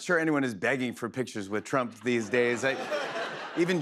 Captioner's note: laughter